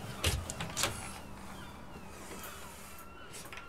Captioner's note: seagulls cheering